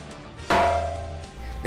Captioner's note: metal Hit